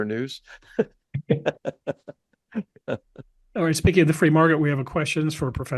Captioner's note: laugh